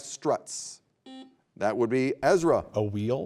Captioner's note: buzzer beeping